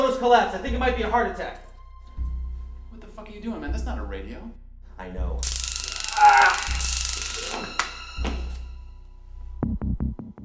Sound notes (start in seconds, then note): 5.4 tazer buzzes; 5.7 crying out; 7.6 ominous music